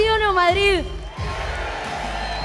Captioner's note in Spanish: Vítores